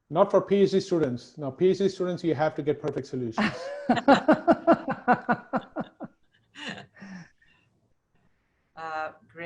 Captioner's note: laughing